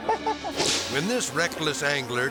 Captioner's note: group laughing; air swoosh